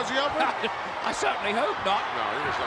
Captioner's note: laugh